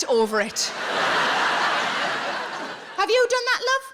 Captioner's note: audience laughing